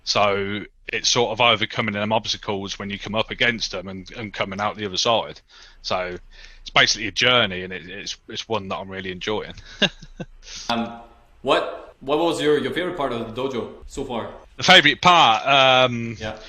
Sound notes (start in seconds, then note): 9.5 laughs